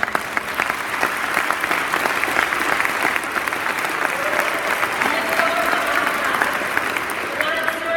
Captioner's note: applause